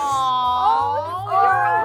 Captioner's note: awwing